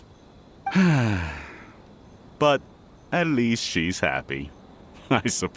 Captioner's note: sigh